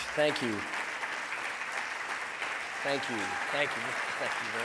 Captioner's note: audience applauding